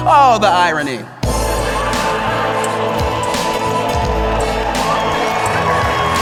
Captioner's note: applause; laughter